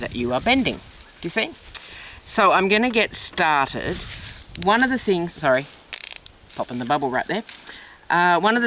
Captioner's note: popping sound